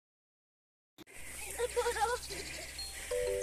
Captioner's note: laughs